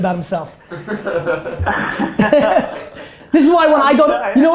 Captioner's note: group laughter